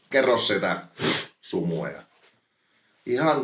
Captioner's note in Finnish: niiskauttaa